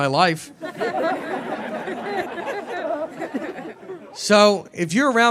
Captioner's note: audience laughing